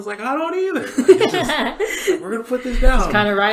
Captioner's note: laughs